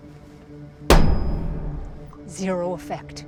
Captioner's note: tool banging